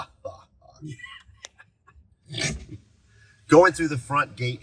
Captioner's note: chuckling